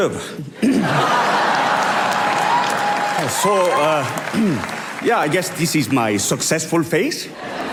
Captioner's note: laughter & applause